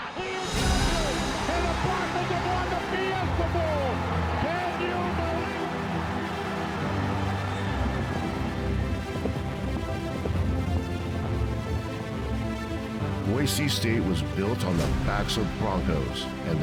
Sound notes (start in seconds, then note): 6.5 upbeat music continues; 9.7 footsteps thumping